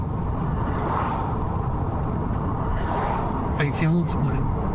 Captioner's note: wind howling